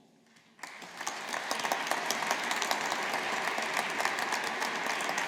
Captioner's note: audience applauding